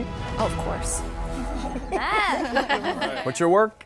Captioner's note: chuckling